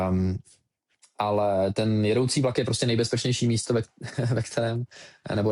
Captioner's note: laughter